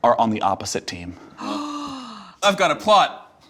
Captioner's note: gasps